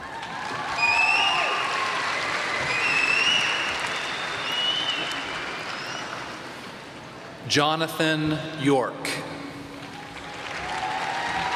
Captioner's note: applause